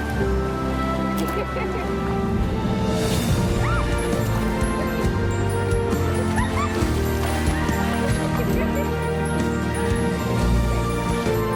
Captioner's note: giggling, water splashing